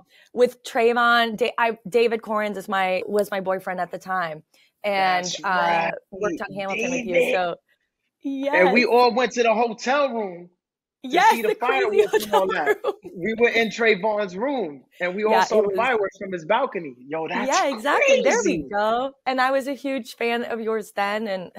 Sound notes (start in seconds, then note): 11.1 laughing